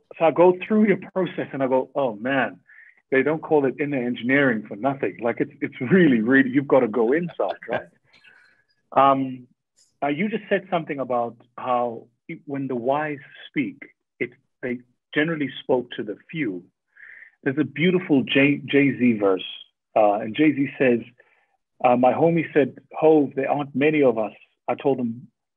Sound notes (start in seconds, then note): 8.9 Sadhguru laughs